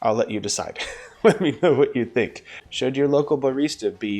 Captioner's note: laughing